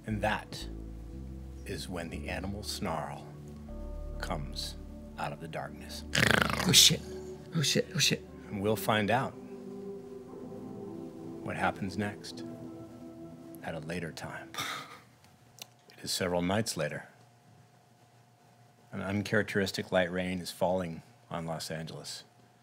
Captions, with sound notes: - And that is when the animal snarl comes out of the darkness. (snarls) - Oh shit. Oh shit, oh shit. - We'll find out what happens next at a later time. It is several nights later, an uncharacteristic light rain is falling on Los Angeles.